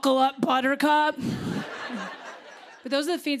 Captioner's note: laughter